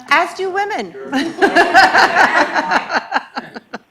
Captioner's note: laughing